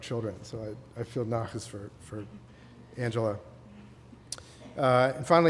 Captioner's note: non-english